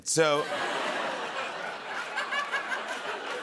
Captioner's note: laughter